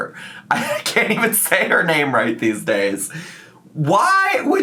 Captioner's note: laughs